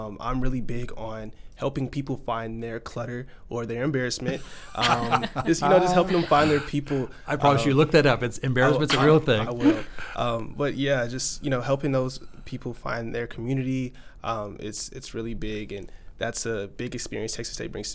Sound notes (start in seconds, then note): 4.2 laughs